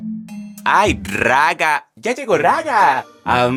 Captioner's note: in a yucatecan accent